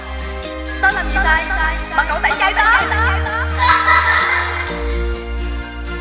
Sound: laugh

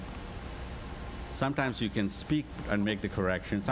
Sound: none

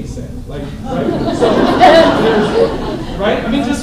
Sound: laughter

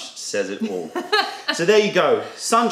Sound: laughter

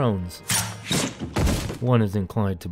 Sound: arrow fires

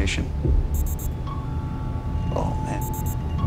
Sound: beeping

